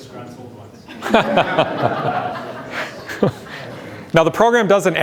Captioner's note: laughter